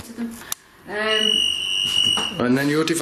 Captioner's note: shrill ringing